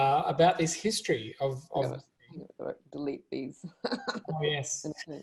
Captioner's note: laughs